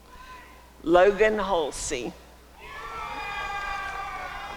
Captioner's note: applause and cheering